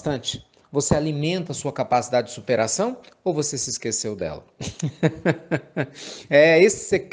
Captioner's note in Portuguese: Risos